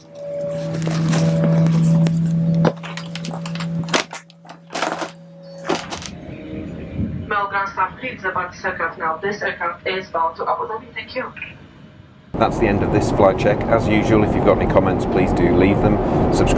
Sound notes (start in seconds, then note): 2.2 door thuds; 7.5 loudspeaker